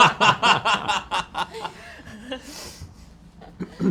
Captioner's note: laughter